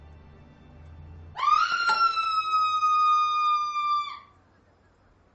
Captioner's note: aphrodite screams